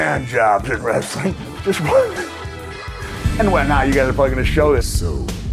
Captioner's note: laughs